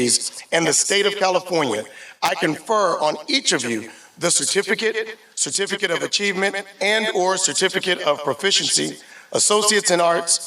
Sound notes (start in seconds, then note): none